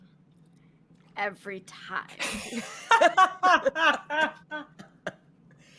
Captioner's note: all laughing